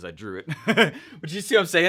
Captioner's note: chuckles